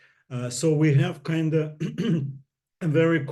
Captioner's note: clears throat